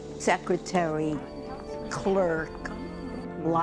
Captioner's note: telephone ringing